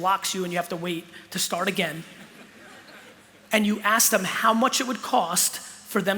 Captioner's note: laughter